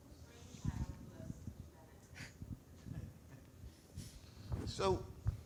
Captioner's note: audience member speaking softly